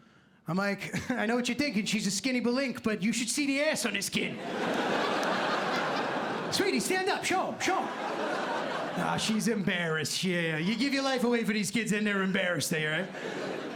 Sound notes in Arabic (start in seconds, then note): 4.4 ضحك